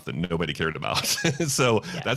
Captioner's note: laughs